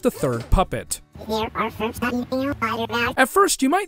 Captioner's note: high-pitched gibberish